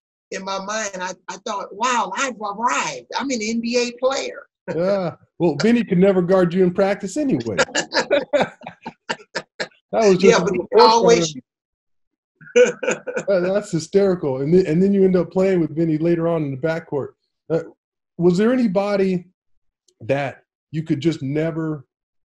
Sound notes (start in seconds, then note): 8.0 laughs